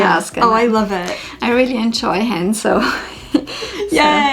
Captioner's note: laughs